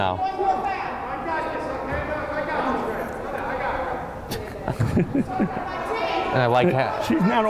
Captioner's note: laughing; yelling on the court